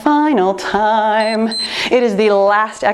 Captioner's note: timer beeps